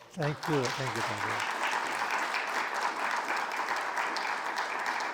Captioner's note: audience applauding